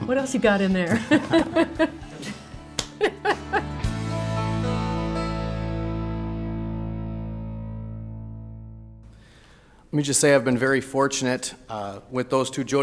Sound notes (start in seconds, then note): 2.7 hands clap; 2.8 laughing